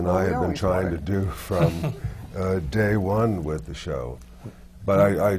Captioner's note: laughs